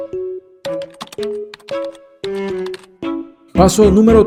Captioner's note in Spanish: Sonidos de teclado